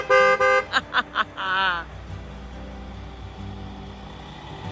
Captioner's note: bus horn beeping; laughs